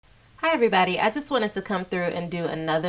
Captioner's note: female speaking